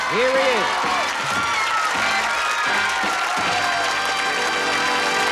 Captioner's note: applause; fanfare